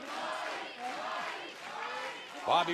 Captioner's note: fans chanting